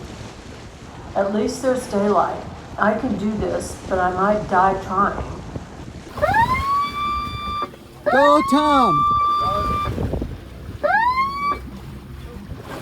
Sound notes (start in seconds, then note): 6.1 airhorn blast; 10.8 airhorn blasts